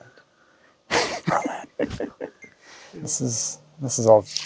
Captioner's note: both laughing